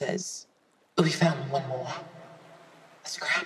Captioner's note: cool, echoey voice